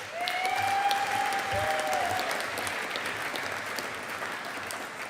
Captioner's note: audience applauding